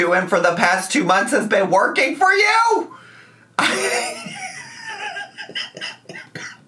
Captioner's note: laughing and coughing